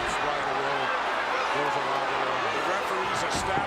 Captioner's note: commentators chattering